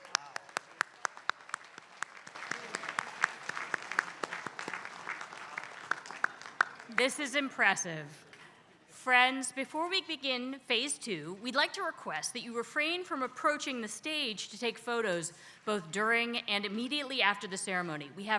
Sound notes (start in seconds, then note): 0.0 applause